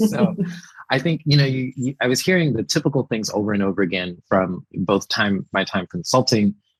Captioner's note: laughs